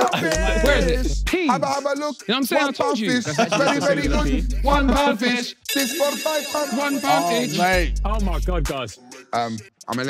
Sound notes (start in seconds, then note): 5.6 phone ringing